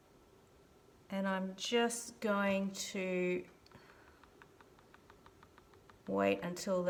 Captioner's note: tapping